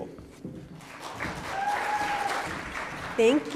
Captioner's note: audience cheering and applauding